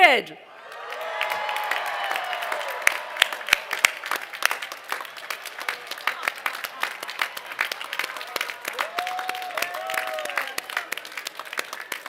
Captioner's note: cheers and applause